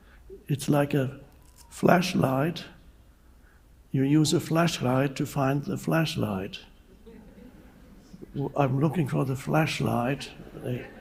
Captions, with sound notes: It's like a flashlight. You use a flashlight to find the flashlight. (audience laughs) I'm looking for the flashlight.